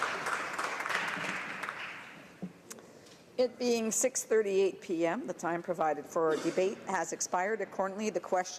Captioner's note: applause